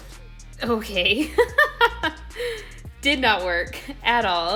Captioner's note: laughs